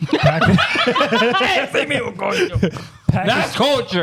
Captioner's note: laughing